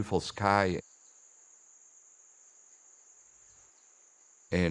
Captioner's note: cicadas and crickets chirping